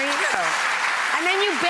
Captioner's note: audience clapping